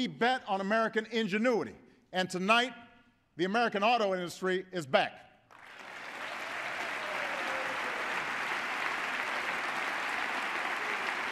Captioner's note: applause